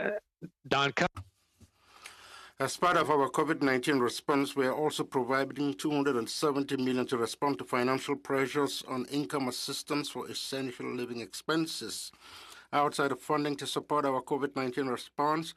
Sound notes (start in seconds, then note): 6.3 speaking in French